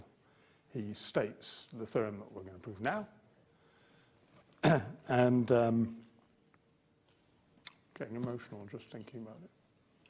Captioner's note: cough